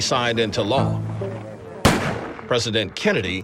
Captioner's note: gun firing